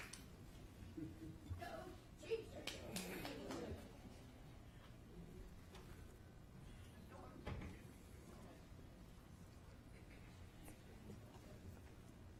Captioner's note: applause